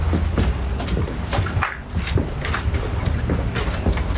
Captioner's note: footsteps thumping